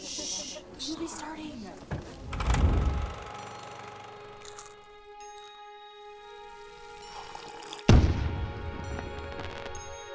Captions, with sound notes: Shh! The movie's starting! (PROJECTOR CLICKING) (POPCORN EATING) (SIPPING) (FIREWORKS)